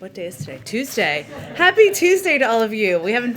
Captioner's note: laughter